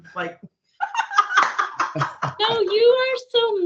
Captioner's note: laughing and clapping